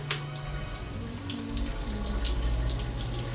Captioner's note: humming